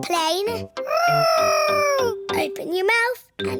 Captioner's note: imitating aeroplane